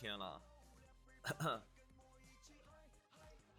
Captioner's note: cough cough